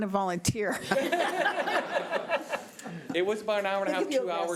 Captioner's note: laughing